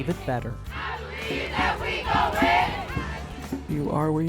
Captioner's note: protesters chanting